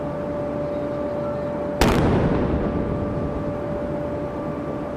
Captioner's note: cannon firing